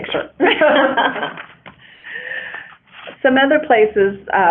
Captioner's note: laughter